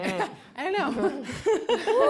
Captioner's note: laughter; chuckles